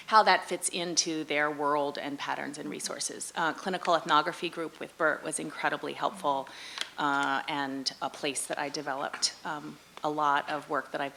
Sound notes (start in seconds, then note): none